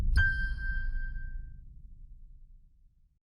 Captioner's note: bass music; bell rings